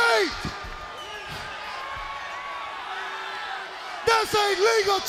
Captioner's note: crowd cheering